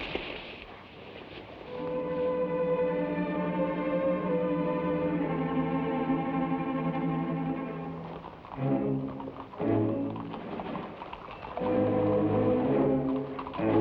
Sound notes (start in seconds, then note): 1.7 suspenseful music; 8.9 horse hooves patter